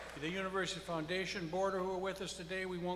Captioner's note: applause